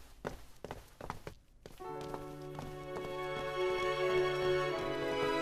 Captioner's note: footstep